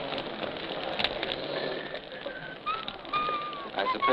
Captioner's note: whistling